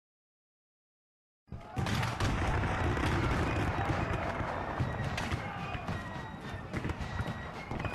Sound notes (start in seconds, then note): 1.6 soldiers shouting; 1.6 guns firing